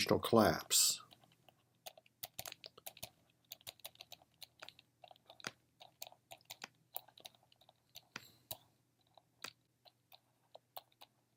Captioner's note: typing